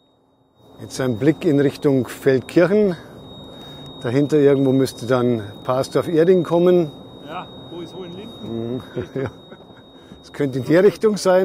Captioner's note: laugh